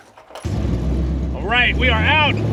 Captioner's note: tools clinking; engine revving